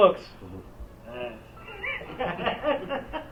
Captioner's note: laughter